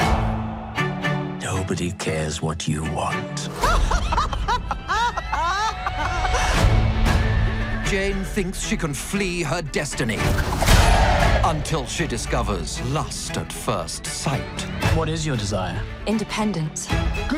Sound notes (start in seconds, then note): 0.1 upbeat music; 3.5 characters laugh